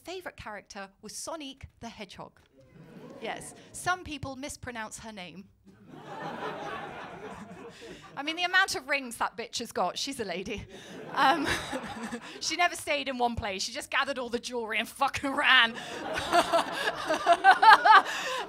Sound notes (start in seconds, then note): 2.9 audience oohs; 5.8 laughter; 10.6 laughter; 15.7 laughter